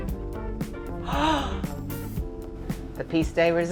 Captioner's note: gasps